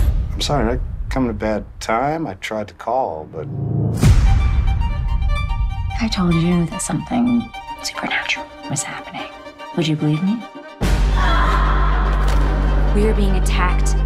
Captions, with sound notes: I'm sorry did I come at a bad time? I tried to call but... If I told you that something supernatural was happening... ...would you believe me? [distant scream] We are being attacked,